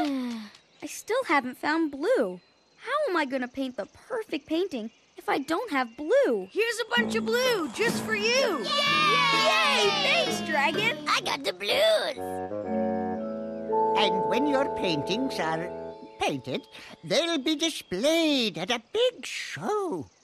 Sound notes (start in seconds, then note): 0.6 sigh; 8.5 cheering